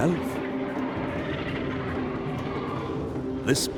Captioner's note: roaring